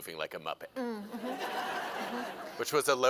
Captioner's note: laughter